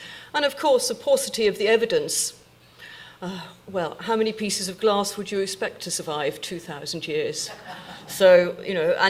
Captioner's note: audience laughing